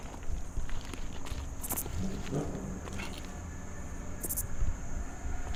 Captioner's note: distant traffic humming over chirping insects